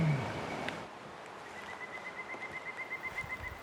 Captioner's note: bird Chirping